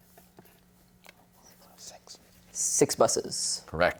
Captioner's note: whispers